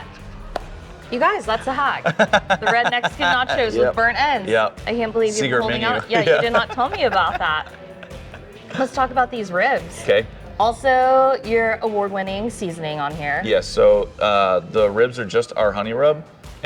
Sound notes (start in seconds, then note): 1.5 laughs